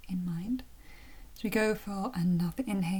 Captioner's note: breathes in